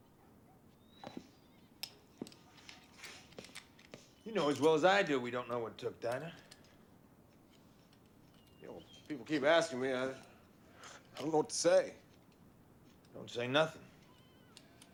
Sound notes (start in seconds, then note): none